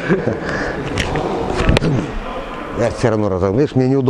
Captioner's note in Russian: смеётся